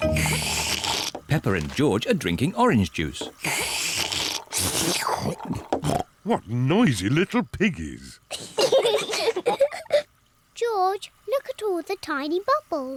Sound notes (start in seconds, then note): 3.3 both slurping; 8.4 both laugh